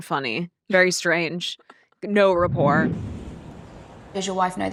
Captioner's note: screen whooshing